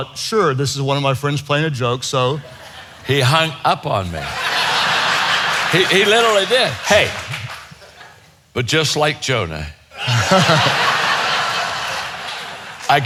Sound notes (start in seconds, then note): 4.0 audience laughs; 9.9 audience laughing